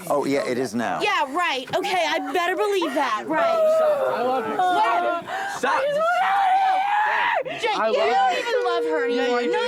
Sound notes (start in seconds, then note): 5.8 wailing